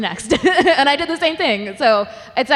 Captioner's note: laughing